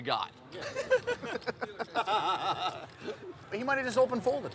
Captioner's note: laughing